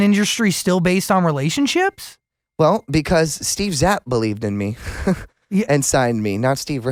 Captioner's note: laughs